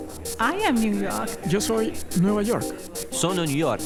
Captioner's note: Spanish